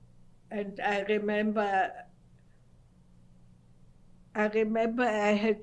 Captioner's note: pauses for 3 seconds